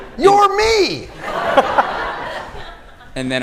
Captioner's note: laughter